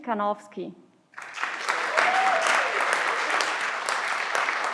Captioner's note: everyone claps